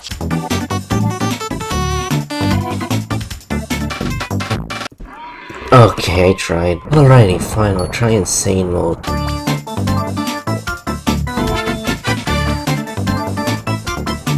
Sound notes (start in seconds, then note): 5.0 donkey Screaming sfx